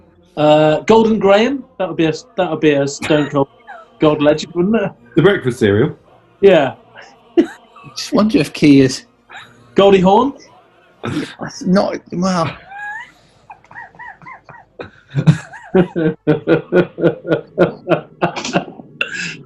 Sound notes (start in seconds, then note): 12.9 sniggering; 14.7 laughing